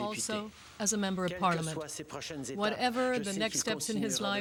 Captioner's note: speaking French